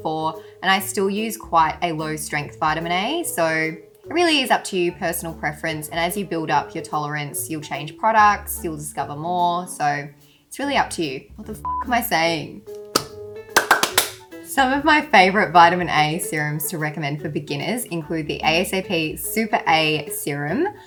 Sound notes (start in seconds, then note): 11.7 beep; 13.5 clapps